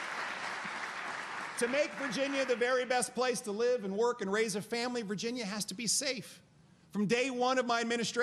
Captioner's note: applause